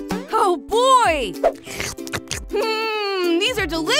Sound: slurping

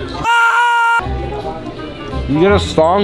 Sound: voiceover

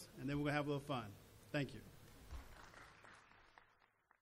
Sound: applause

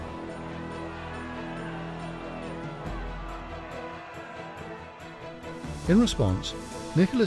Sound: suspenseful music; citizens shouting

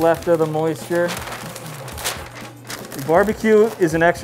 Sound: paper crinkles

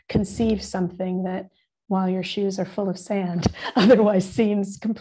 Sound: laughing

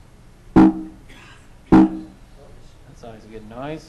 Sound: computer clicking noise

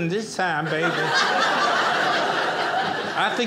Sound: audience laughing

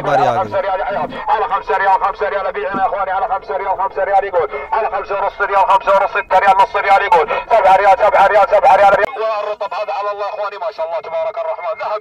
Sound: Arabic

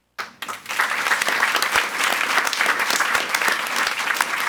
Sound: audience applauds

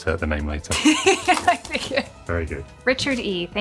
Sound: laughs

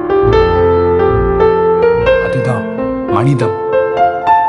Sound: none

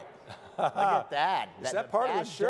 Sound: chuckles

